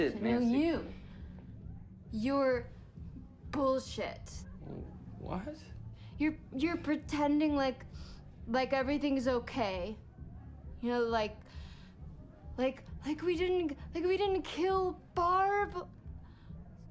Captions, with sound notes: - No, you! You're bullshit. - (solemnly) What? - You're pretending like everything's okay. (slurring) You know, like we didn't kill Barb?